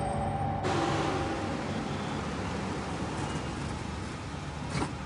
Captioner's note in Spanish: Ruido del motor del auto